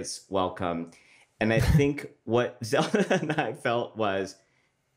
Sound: laughs

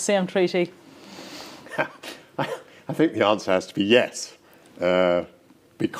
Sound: laughs

